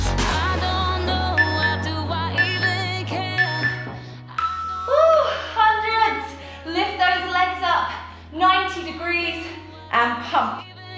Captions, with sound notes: (beeping sound) Woo, hundreds. Lift those legs up, 90 degrees and pump.